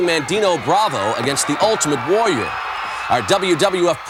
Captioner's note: audience cheering